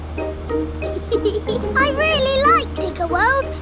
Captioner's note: george chuckling